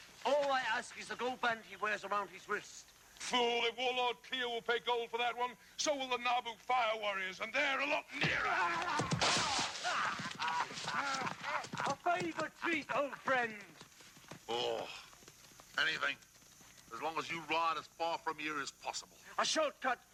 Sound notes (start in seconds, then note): 9.4 Malachi groaning; 9.9 man laughing